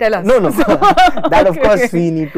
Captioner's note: laughs